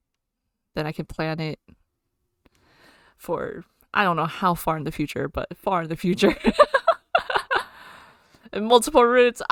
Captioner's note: laughs